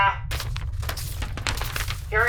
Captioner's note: page flipping